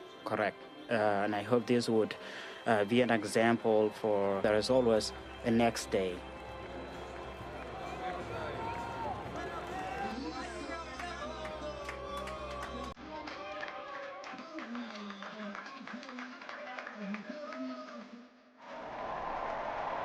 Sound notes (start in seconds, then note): 11.6 cheering